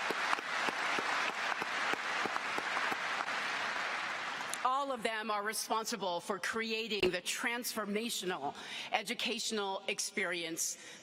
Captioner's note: applause